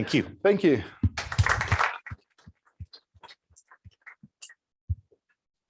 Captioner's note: applause